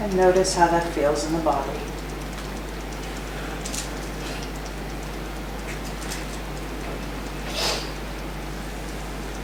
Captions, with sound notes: - And notice how that feels in the body. (tapping)